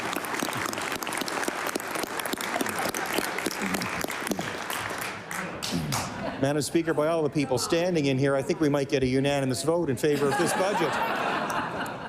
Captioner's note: cheering/applause; applause